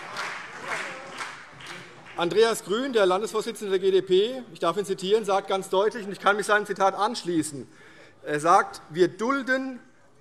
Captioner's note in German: Beifall BÜNDNIS 90/DIE GRÜNEN, SPD und DIE LINKE